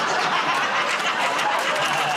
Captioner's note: laughter